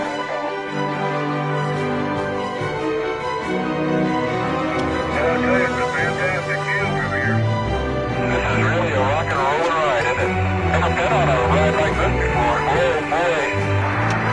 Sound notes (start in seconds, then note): 10.7 laughing